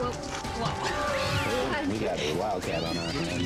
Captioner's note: cat yowling; laughs